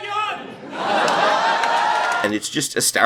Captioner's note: uproarious laughter